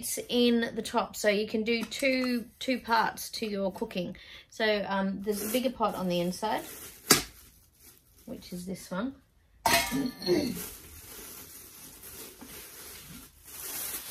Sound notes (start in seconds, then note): 9.6 pot clangs; 9.6 plastic rustles; 10.2 clears throat